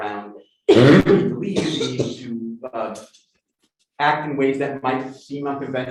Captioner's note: coughing